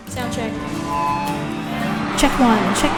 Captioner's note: microphone screeching